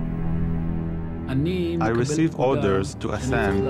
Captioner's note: speaking in foreign language